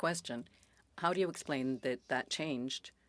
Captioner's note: speaking French